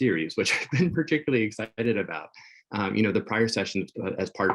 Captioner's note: chuckles